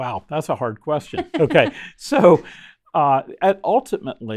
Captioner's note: chuckling